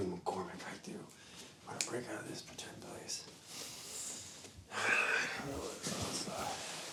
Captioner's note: breathes deeply